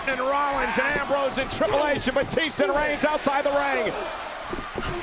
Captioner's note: applause